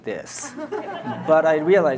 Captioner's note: audience laughs